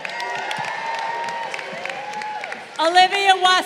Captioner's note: crowd cheering